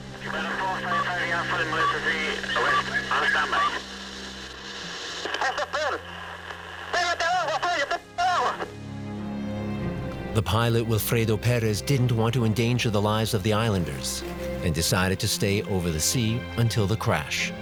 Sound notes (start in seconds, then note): 5.3 yelling in panic